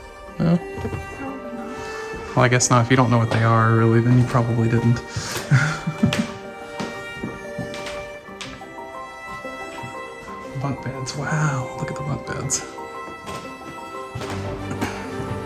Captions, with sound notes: No? Probably not. Well I guess not if you don't know what they are really than you probably didn't. (Laughs) The bunkbeds. Wow! Look at the bunkbeds!